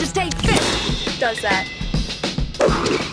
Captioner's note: watch chimes